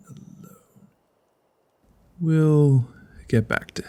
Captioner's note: none